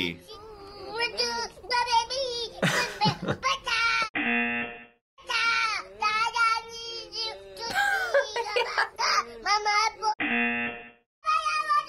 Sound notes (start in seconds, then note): 0.1 baby yelling; 0.1 buzzer; 5.0 baby yelling; 5.0 buzzer; 10.9 baby yelling